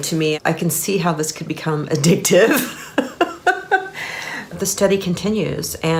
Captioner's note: laughing